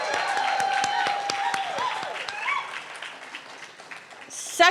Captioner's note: cheering